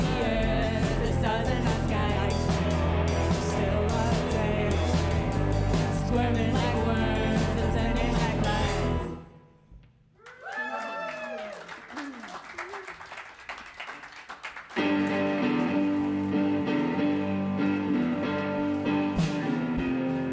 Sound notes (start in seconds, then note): 10.2 cheers and applause; 17.0 mid-tempo rock guitar music